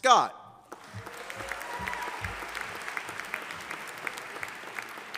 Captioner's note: audience applauding